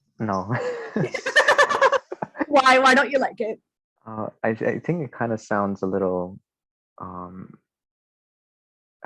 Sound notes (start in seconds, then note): 3.1 laughing